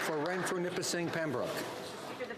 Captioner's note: applause